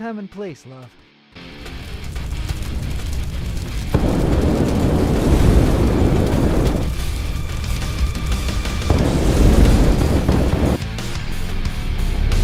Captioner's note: flames roar with spells in tandem as debris flies